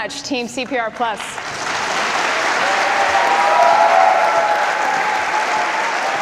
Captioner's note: audience applause and cheers